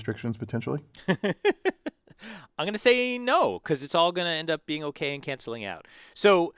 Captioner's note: laugh